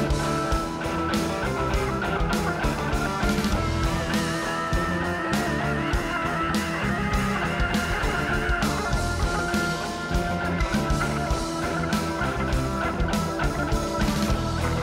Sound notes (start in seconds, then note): 4.1 growling; 9.6 rock music